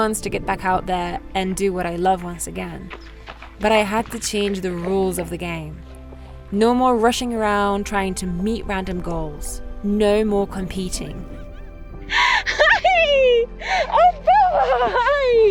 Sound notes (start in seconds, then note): 12.1 laughs